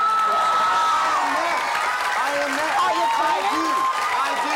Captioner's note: cheering